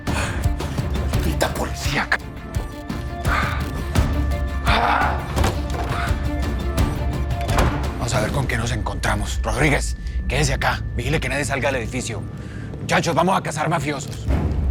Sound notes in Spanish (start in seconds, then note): 4.6 Grito; 7.4 Portazo